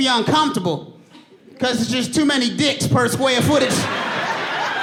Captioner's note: audience laughing